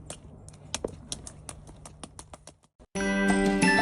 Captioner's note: feet splashing; playful music